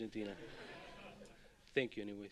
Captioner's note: laughter